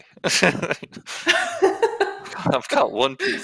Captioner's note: laughter